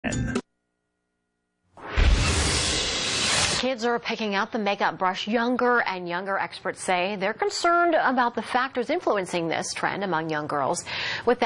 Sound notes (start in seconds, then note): 1.8 vortex closing